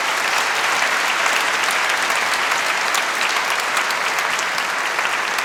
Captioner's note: applause